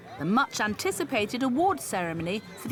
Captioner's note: none